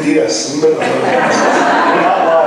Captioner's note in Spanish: laughs